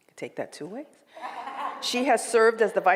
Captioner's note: laughs